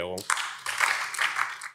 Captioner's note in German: Beifall BÜNDNIS 90/DIE GRÜNEN